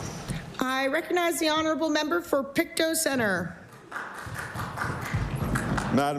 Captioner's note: applause